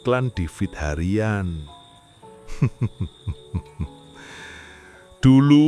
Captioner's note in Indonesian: tertawa